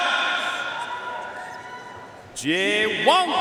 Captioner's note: audience cheering and applauding